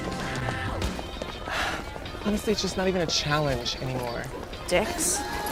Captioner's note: sighing